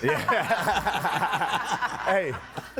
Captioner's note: crowd laughing